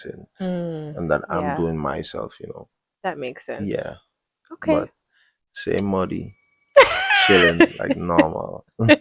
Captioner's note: laughter